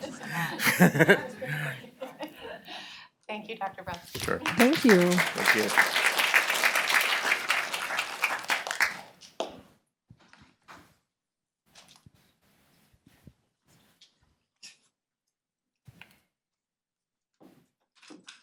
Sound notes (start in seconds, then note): 0.0 laughter; 6.5 applause